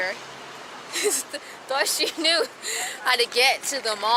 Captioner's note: laughs